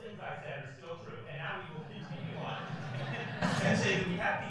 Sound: laughs

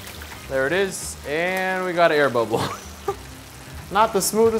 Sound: laughs

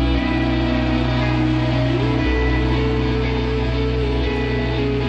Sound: audience applauding

